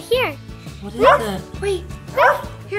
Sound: puppy barking

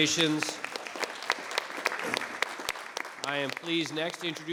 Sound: applause

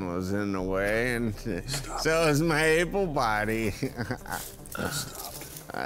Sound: laughs

